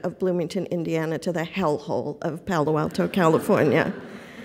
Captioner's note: laughter